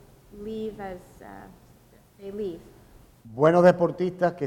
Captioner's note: speaking in Spanish